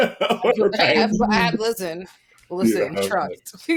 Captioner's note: laughing